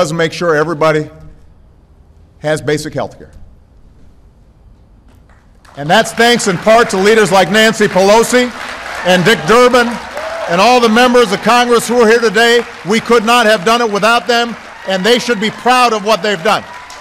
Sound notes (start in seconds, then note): 4.4 applause